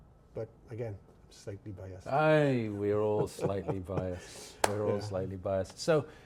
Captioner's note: laughs